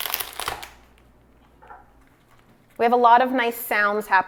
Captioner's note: lobster shell cracking